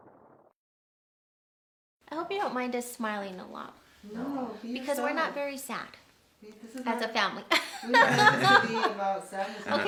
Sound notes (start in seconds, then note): 7.5 laughs